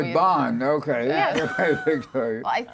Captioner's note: laughter